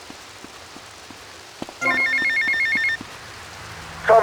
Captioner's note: phone ringing